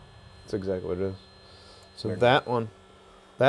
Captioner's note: machine beeps